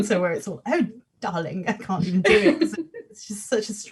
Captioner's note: laughs